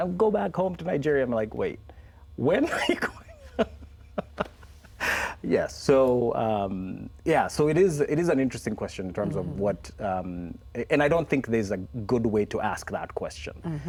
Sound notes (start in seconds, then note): 2.6 laughs